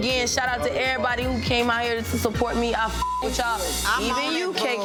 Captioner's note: beep; overlapping chattering